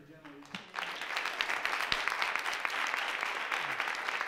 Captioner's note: all applauding